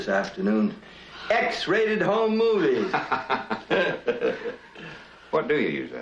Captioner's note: they laugh